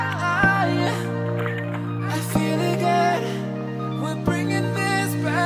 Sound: laughs

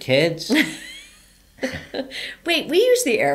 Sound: laughs

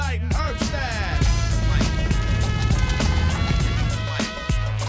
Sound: fire crackling

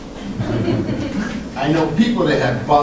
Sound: group laughter

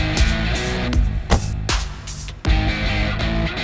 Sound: door closes

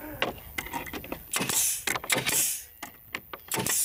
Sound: hissing

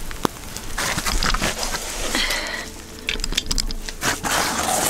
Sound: raindrops; scraping, grunting

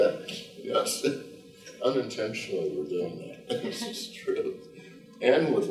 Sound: chuckles

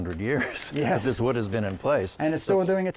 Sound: laughter

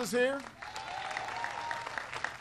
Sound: applause

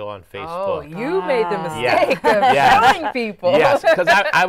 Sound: laughs

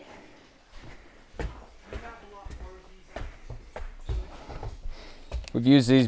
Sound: foot steps; man chattering

